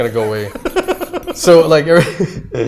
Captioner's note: laughs